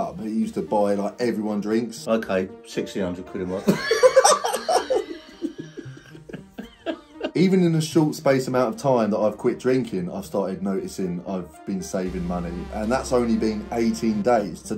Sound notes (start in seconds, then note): 3.6 both laughing